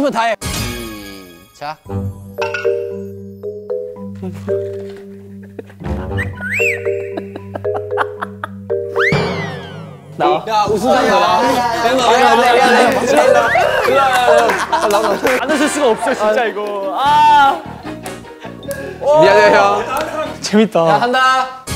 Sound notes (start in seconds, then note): 8.7 catching laughter